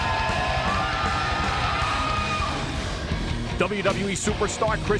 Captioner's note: crowd cheering